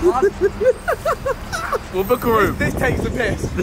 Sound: laughing

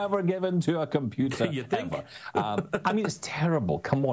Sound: laughs

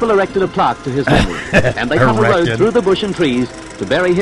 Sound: laughing

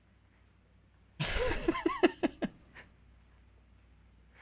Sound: laughs

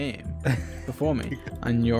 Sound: chuckles

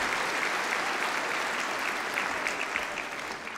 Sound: applause

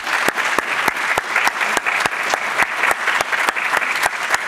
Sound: audience applauding

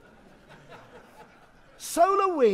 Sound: audience laughing

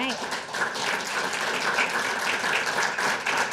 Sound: audience applauding

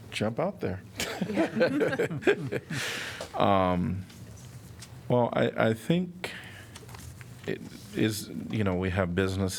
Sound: laughter

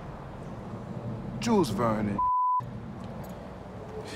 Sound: beep

